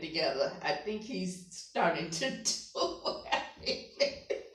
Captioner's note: laughing